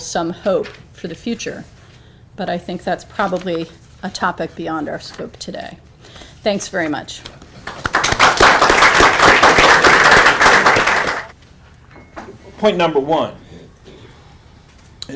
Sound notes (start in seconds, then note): 7.6 applause